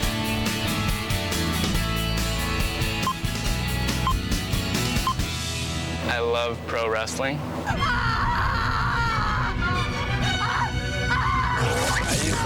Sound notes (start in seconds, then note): 3.1 beeping; 7.6 screaming; 9.0 dramatic music